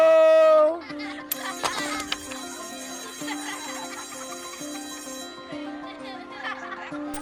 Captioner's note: children laughing; bell rings